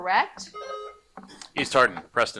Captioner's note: buzzer buzzing